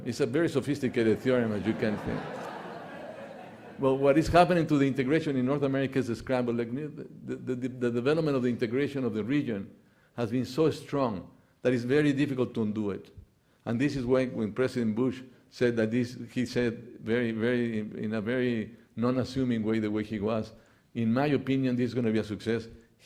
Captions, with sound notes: It's a very sophisticated theory. (audience laughing) Well what is happening to the integration in North America is a scrambled egg. The development of the integration of the region has been so strong that is very difficult to undo it. And this is why when President Bush said in a very non assuming way, the way he was in my opinion, is going to be a success.